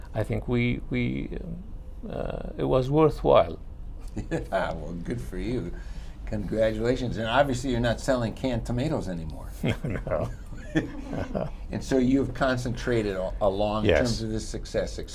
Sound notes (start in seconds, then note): 9.5 laughter